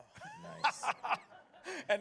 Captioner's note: laughs